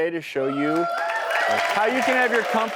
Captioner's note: audience cheering